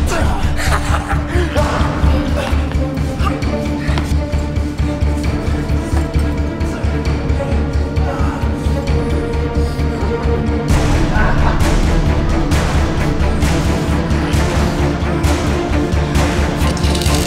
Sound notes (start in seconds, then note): 0.0 laughs evilly; 3.5 dramatic music